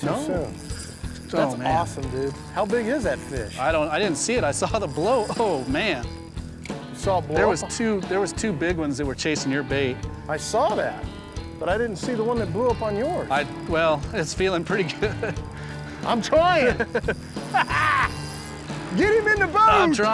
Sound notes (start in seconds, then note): 16.5 laughs; 17.5 cackles